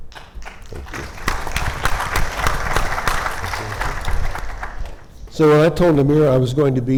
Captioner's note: audience applauding